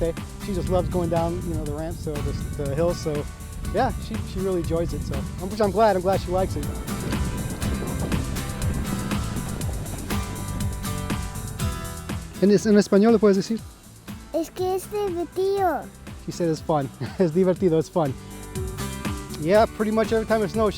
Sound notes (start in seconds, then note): 8.9 upbeat music; 12.0 speaking Spanish